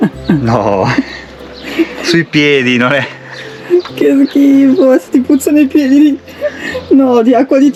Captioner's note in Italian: risate